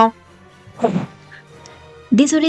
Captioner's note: sigh